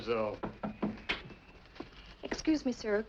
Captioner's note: batendo na porta